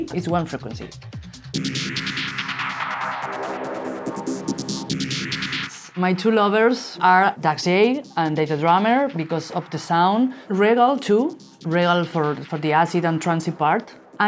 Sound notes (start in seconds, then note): none